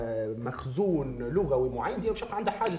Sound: local spoken Arabic

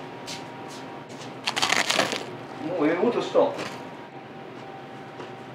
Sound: bread nibbling

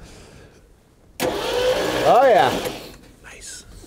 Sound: engine whirring

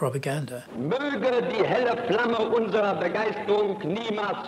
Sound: speaking German

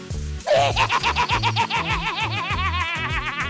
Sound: evil laugh

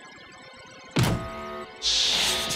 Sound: buzzer sounds

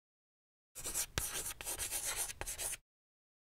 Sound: chalk scratching board

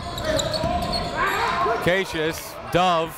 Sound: crowd talking; coaches yelling

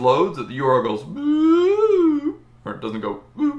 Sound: long, undulating ooh

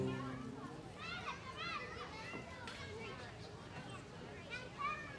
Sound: children chattering

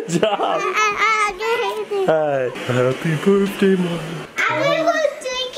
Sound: gibbers

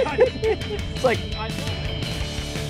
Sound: laughing

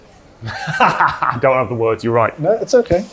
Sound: laughs

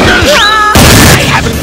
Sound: cue Smash Bros KO

